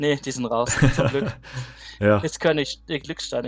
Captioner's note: laughter